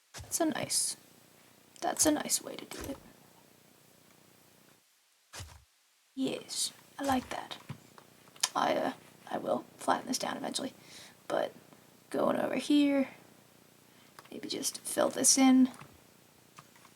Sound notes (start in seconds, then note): none